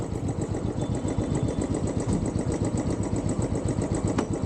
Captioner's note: bike engine